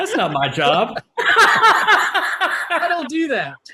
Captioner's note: panelists laugh